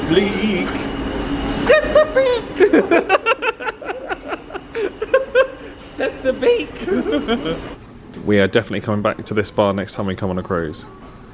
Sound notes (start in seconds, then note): 3.8 laughing